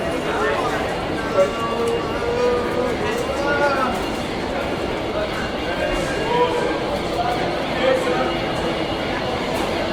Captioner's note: crowd and subway noises